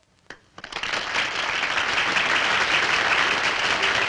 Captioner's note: applauding